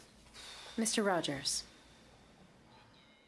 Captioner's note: speaking French